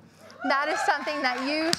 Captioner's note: audience cheering; audience clapping